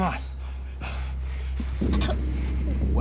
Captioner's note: coughing